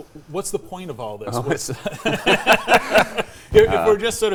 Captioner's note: everybody laughs